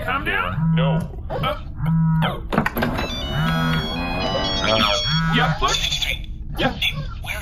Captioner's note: phone ringing